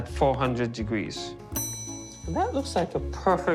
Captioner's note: bell chiming